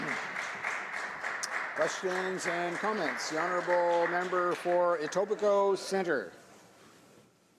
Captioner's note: some Applause